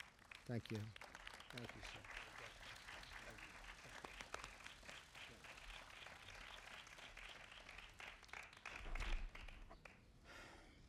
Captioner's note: applause